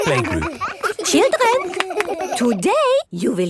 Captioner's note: all laughing